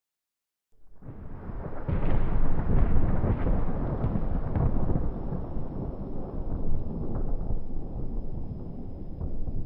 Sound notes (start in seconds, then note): 1.0 thunder rolling